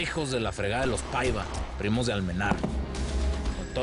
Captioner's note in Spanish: Disparos